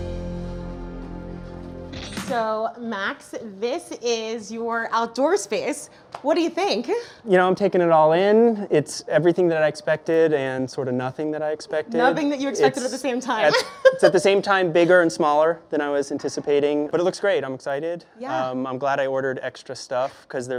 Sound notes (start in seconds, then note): 13.4 chuckles